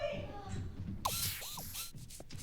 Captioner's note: whirring